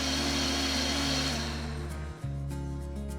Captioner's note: whirring stops